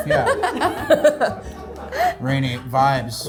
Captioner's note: group laughs